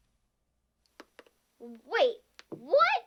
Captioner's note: tapping